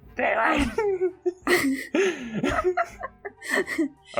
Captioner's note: laughs